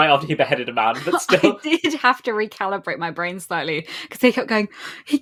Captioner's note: laughing